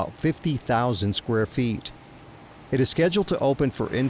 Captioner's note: machinery humming